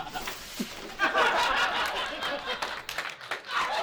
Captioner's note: laughter